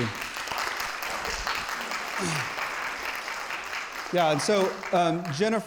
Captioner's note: audience applauding